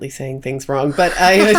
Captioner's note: both laughing